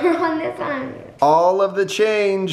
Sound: laughs

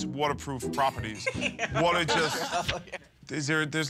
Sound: laughs

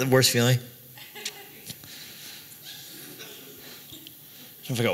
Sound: laughter

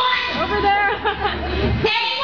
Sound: fans laugh

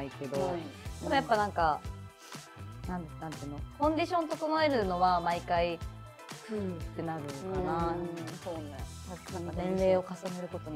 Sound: tired

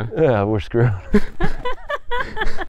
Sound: all chuckling

